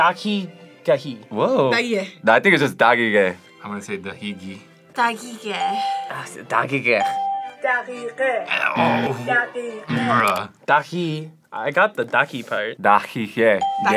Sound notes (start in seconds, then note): 6.9 bell rings; 9.5 buzzer rings; 13.6 bell rings